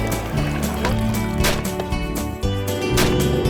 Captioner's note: gunshot; boat motor